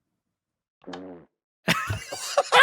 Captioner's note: fart; laughter